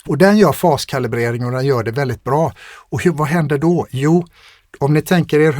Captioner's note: scoffs